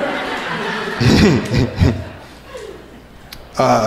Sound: crowd laughing

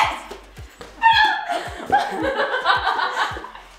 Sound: laughing

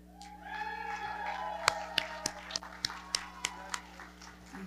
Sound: audience cheering and clapping

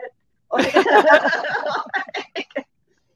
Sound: all laugh

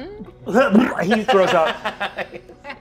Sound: imitates vomiting

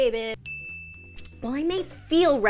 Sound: bell rings

